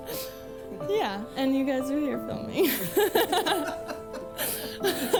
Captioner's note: laughs